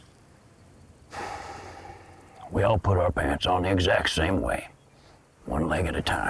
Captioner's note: sighs